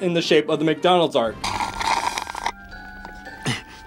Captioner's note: slurping